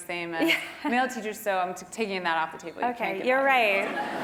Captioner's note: laugh